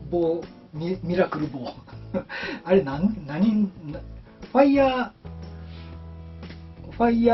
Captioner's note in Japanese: 笑い